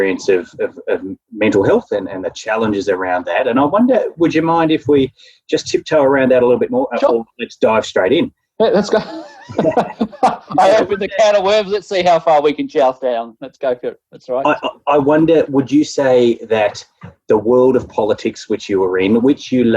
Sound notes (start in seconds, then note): 8.7 laughing